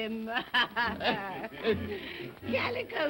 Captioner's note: all chuckling